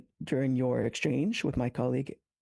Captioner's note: speaking French